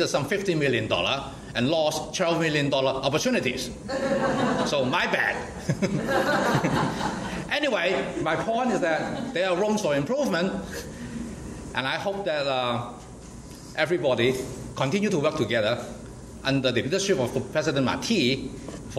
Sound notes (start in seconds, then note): 3.8 audience laughs; 5.7 laughs